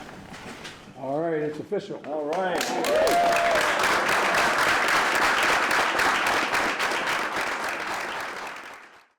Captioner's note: applause